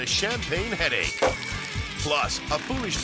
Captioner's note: champagne splashes; cork pops